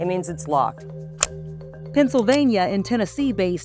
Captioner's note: gun clicking